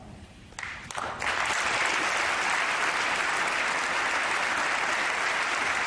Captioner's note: applause